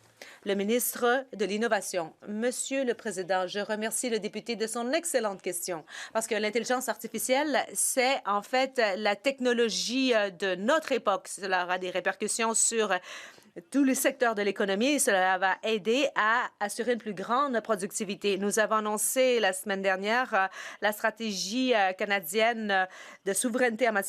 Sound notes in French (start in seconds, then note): 4.8 voix de l'interprète